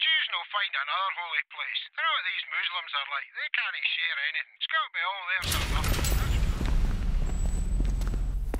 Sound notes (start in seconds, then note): 5.4 doors burst open; 7.8 marching feet; 7.8 threatening music